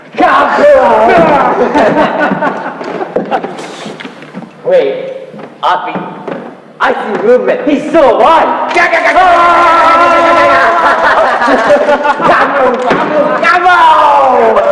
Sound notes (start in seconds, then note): 1.9 laugh; 8.0 Appie yelling; 8.8 vocalising gun sounds; 10.0 laugh; 14.5 laugh